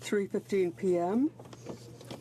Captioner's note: speaking French